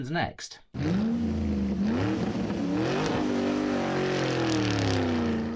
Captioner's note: car engine revving